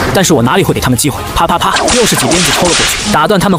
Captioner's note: crack! Crack! Crack!